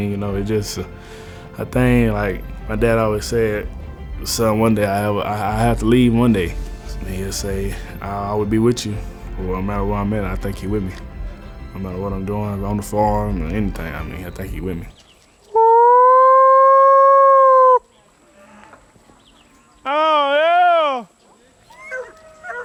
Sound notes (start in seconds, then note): 15.6 howling; 22.4 dog barking